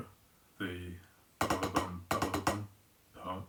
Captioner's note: beatboxing